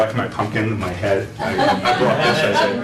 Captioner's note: laughter